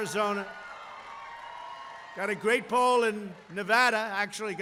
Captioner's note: applause